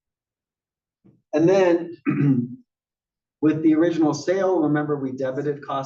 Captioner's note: cough